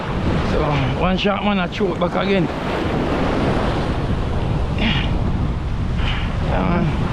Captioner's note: clears throat